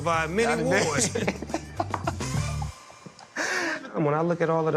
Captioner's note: both laugh